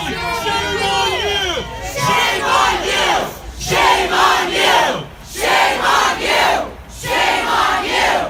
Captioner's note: crowd continues chants of 'shame on you, shame on you...'